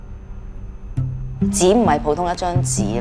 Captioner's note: Cantonese